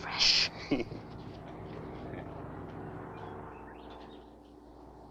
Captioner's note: David chuckles